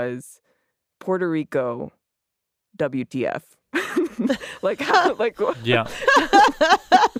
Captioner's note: laughs